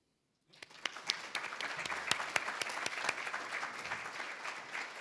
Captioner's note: everybody applauds